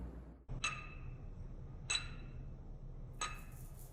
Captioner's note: striking flint & steel